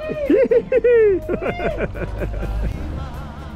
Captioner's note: laughs